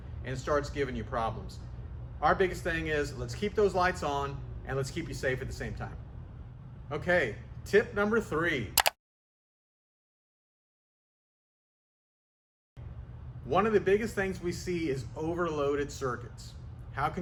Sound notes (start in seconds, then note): 8.8 switch clicking